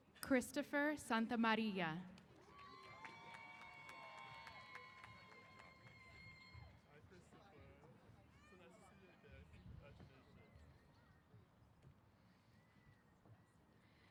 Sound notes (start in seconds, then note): 2.2 applause & Cheers